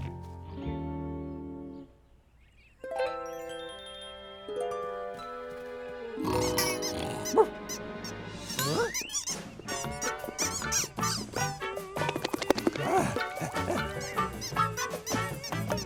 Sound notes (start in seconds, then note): 0.1 apprehensive note; 1.5 twinkly music; 5.2 distant squeaking; 6.2 dog snoring; 8.4 costumes squeaking; 8.7 tropical music; 10.7 dog shaking jowls; 12.1 dog panting; 13.3 costumes squeaking; 15.6 dog barking